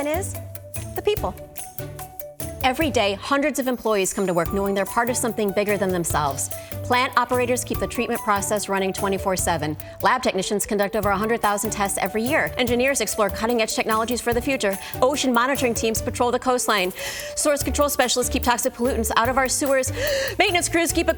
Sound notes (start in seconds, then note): 1.7 bright music continues; 16.9 inhaling; 19.9 inhaling